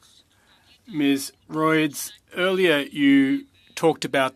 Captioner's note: speaking French